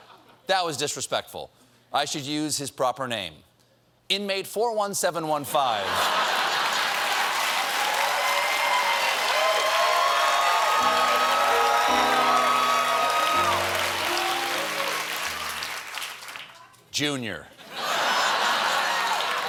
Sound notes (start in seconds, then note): 8.9 applause; 8.9 laughter